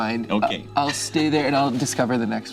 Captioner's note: laughs